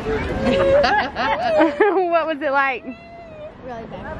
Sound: laughing

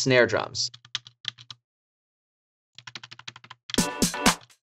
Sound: keyboard typing; house beat

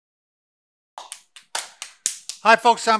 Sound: clapping

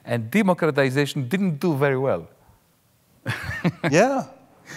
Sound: laughs lightly

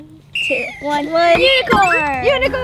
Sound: whistle blows

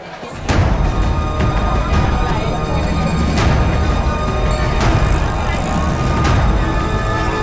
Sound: vendors clamoring

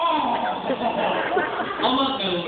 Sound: laughter

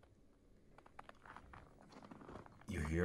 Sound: crunching sound

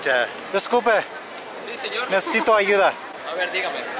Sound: Spanish

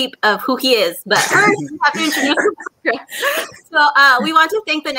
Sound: laughing

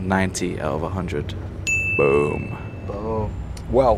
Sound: digital dinging

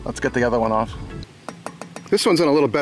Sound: metal clinking

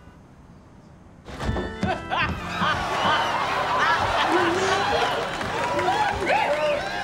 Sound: Rachel laughing; audience gasping

